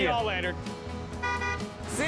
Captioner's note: honking